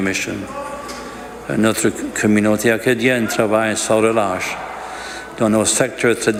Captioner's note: speaking French